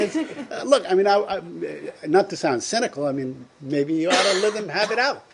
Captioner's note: laughter